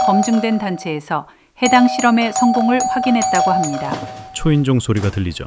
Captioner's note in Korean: 초인종 소리